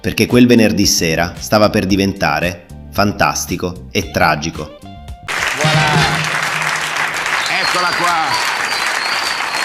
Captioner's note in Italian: applauso